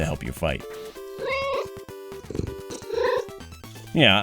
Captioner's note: meow